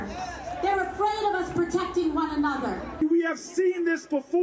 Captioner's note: cheers and applause